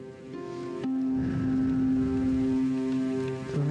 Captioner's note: gentle music; breath hisses